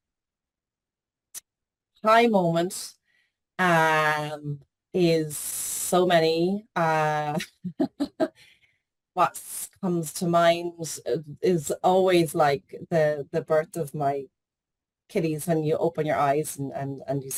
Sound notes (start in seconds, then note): 7.4 laughs